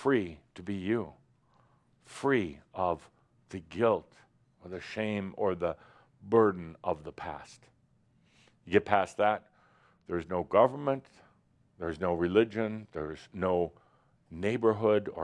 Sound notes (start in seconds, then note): none